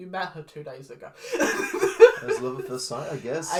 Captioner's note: laughs